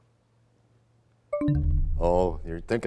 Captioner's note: bell chimes, time expires